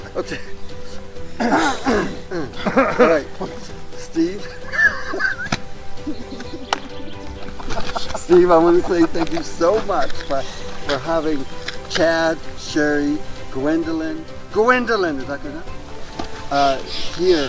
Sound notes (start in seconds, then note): 0.2 laughing; 1.3 both clearing throats; 1.4 bright music; 4.7 laughing; 5.7 knees thudding; 6.7 hands clapping; 7.6 bright music; 16.1 bright music